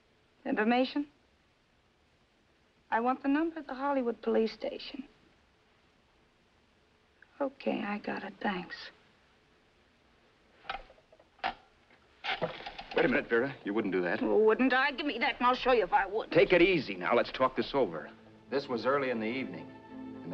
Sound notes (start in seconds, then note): 11.4 phone hook clicks; 12.3 dialing